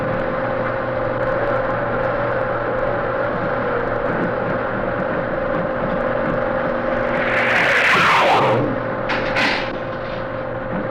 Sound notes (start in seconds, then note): 6.4 air whooshes